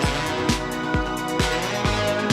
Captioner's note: crowd chatter